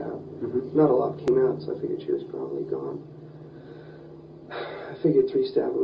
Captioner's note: sigh